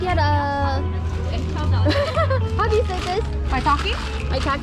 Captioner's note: laughs